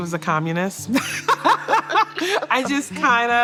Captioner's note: laughter